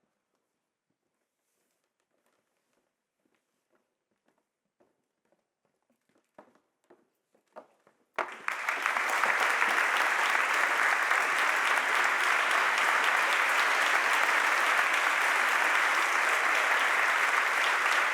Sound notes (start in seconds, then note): 8.3 audience applauding